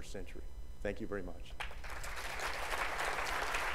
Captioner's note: applause